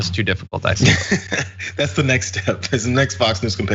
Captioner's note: laugh